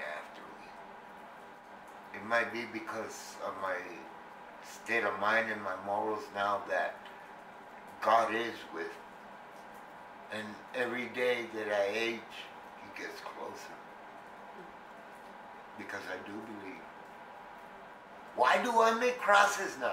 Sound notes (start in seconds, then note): none